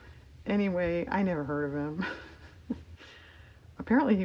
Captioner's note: laughs